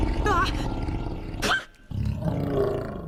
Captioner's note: sneezes adorably